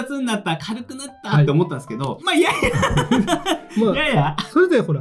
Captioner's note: laughs